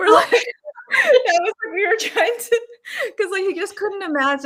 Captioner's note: laughing